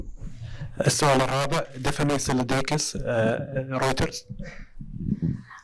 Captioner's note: in Arabic